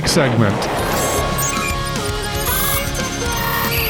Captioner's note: bomb explodes